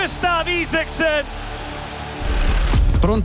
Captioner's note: crowd and camera sound